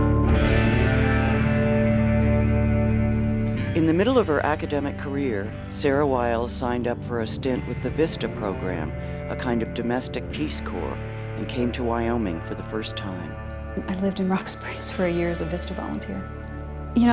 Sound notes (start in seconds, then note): 3.9 voiceover